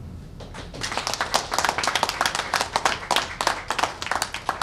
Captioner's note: applause